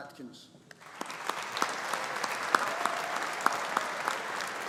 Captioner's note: audience applauding